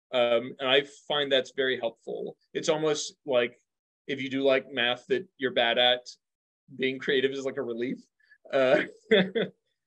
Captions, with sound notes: And I find that's very helpful. It's almost like if you do like math that you're bad at, being creative is like a relief (chuckles).